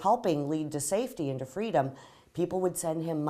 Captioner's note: none